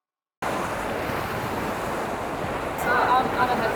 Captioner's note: waves crash in the background